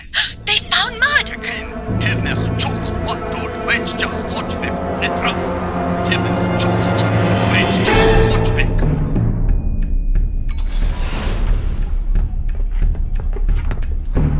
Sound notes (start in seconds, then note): 0.0 gasp; 2.6 Klingon voice shouting on communicator; 9.1 action music